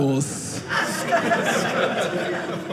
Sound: audience laughing

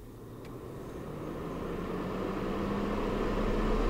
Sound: heater roaring

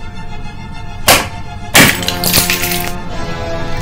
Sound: crack! CRACK!

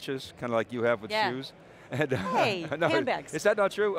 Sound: chuckles

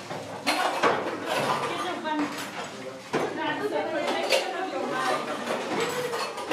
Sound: chatter

